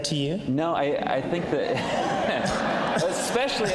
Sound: laughs

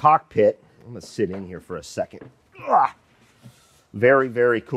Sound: grunts

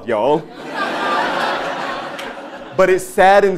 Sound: laugh

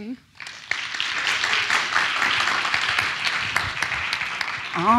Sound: audience applauds

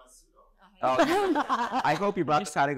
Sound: audience laughing

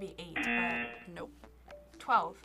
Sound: buzzer

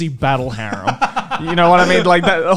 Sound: laughing

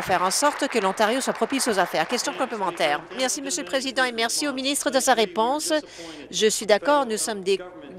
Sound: applause

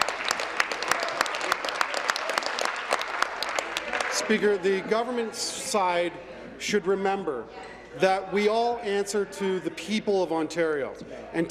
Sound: applause

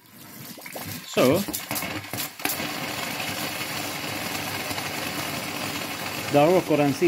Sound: the sound of pressurized air spurting out

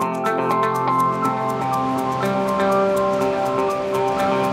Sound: upbeat music; water rushing

